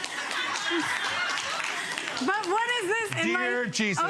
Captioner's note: audience laughs